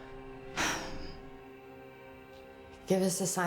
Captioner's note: Rachel sighs